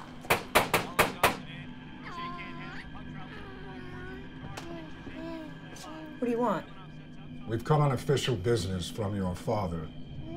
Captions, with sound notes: [knocking] [baby cooing] What do you want? We've come on official business from your father.